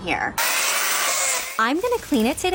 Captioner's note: chainsaw